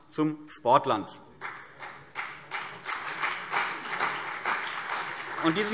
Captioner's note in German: Beifall CDU und BÜNDNIS 90/DIE GRÜNEN